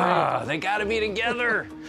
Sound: laughs

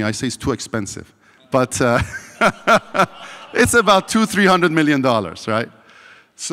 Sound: laughs

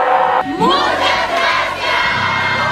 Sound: speaking in Spanish

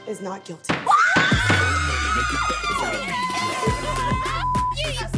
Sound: ladies screaming

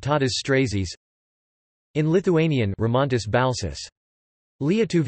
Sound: in Lithuanian

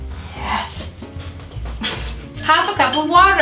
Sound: laughs

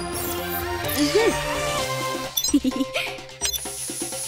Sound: laughing

